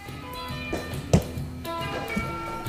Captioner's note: sounding gavel